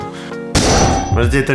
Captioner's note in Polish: bang